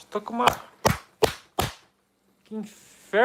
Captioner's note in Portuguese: sons de socos